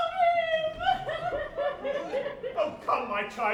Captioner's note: Josephine weeps